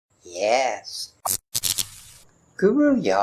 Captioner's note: Static